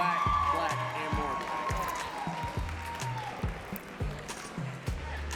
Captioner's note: audience cheering and clapping